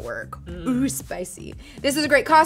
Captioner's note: none